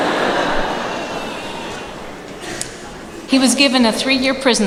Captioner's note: laughter